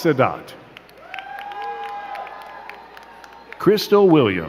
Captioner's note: crowd cheering and clapping